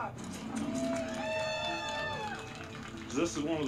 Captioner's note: cheering